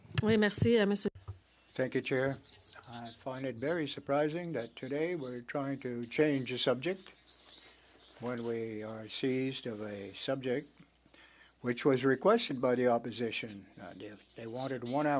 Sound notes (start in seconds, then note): 4.1 speaking French